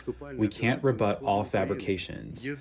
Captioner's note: through translator